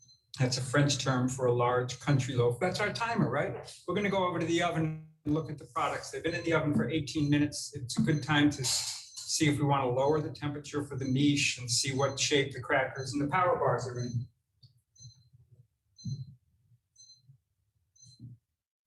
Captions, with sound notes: That's a French term for a large country loaf. That's our timer, right? We're gonna go over to the oven and look at the products. They've been in the oven for 18 minutes. It's a good time to see if we wanna lower the temperature for the miche, and see what shape the crackers and the power bars are in. (timer beeping)